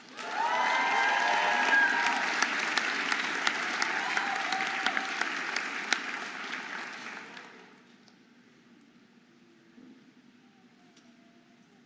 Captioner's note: audience applauding and cheering